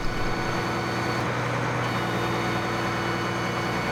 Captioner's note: machinery winds